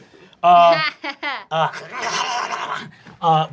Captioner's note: snarling